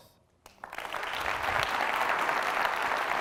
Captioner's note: applause